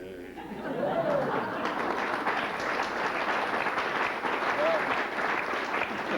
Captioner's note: applause